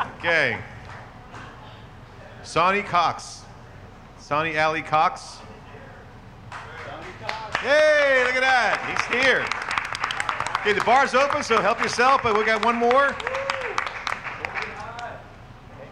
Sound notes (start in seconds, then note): 0.0 laughing; 7.1 audience applauding